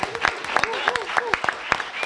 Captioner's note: applause